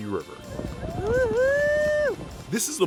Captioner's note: cheering